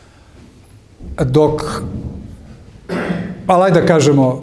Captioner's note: he coughs